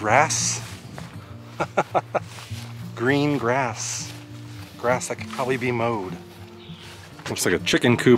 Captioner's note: laughter